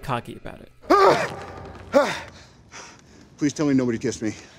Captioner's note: gasping